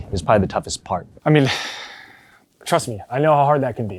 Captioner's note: sighs